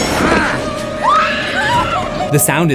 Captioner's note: screams